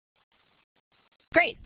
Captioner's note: pause